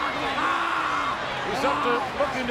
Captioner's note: Matt screaming